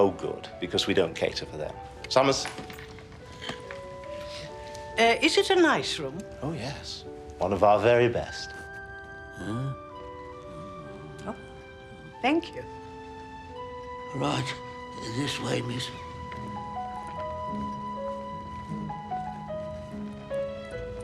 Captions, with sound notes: - Oh, good, because we don't cater to them. Summers. - Uh, is it a nice room? - Oh, yes. One of our very best. (Summers muttering) - Oh, thank you. - Right. This way, miss. (light orchestral music)